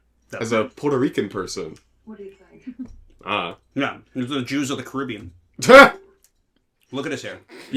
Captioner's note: laughs